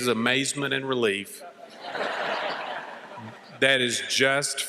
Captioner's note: laughter